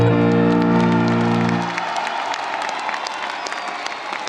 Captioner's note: audience applauding